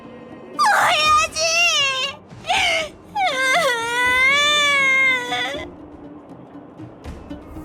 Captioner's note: sob